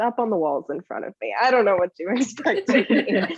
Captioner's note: laughs